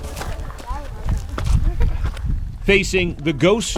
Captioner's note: footsteps